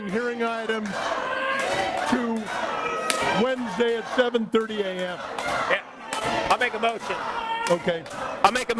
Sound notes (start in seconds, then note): 0.0 audience chanting we won't go